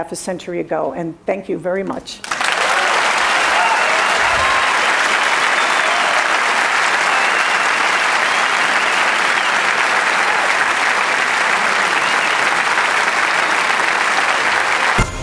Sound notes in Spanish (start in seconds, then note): 2.2 Aplausos